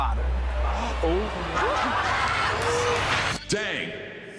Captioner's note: audience gasping, clamoring